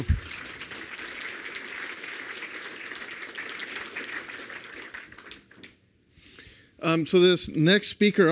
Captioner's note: applause